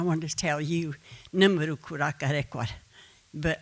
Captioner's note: speaking Comanche